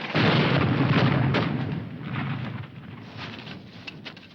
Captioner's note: rustling winds; bomb exploding